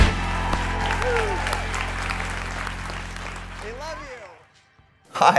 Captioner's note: audience applauding